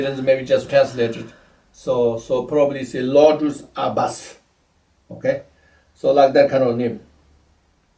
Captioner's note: tibetan